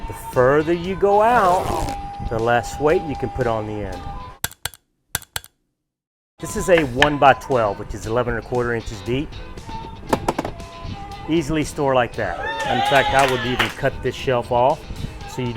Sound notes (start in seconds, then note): 4.7 words tapping